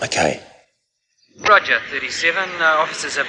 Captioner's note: police Radio